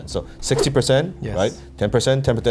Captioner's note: air whooshing